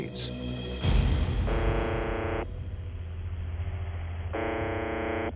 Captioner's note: buzzing tone